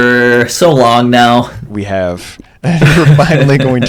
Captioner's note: laughter